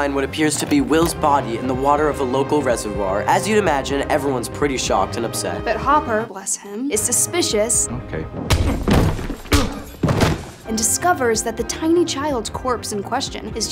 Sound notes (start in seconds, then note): 8.4 thump; 8.4 thwack